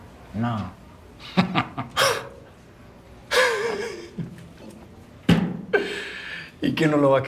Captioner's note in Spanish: Risas